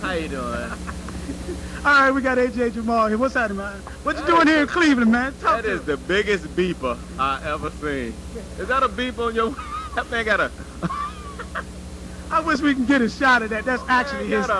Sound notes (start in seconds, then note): 10.6 laughter